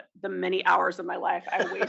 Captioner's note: laugh